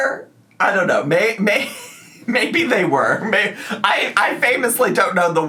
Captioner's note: laughs